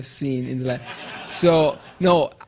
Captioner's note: audience laughing